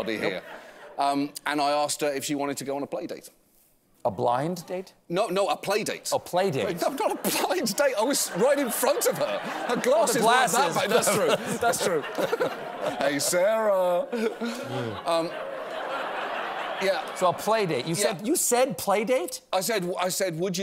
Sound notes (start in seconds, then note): 17.3 laughter